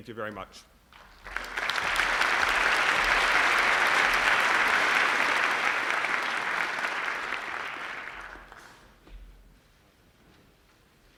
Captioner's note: applause